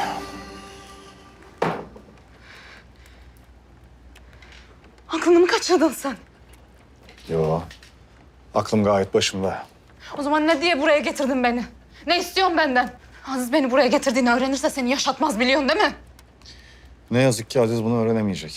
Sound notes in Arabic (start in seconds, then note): 0.7 صوت كرسي